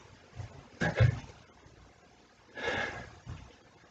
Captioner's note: sighs